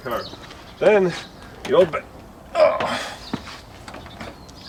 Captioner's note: grunts